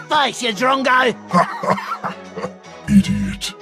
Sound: laughter

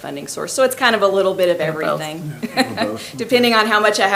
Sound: laughs

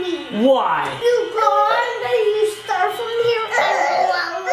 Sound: mumbles

